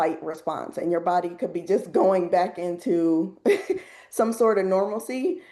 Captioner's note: chuckles